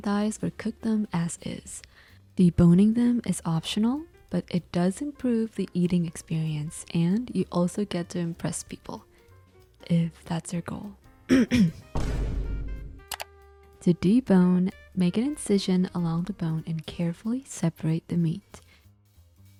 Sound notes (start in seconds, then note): 11.3 ahem